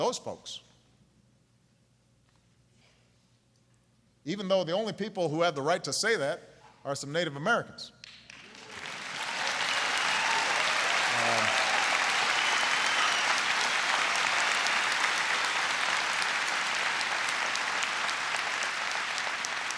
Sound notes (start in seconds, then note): 12.3 applause